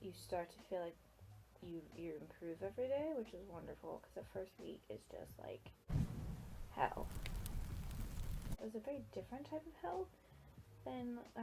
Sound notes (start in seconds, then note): 0.0 stumbles over word; 5.9 fire burning sound effect